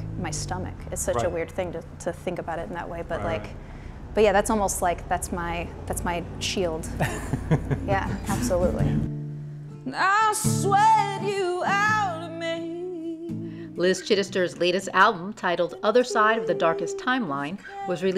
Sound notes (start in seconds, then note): 6.9 laughs